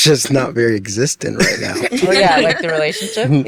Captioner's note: all laughing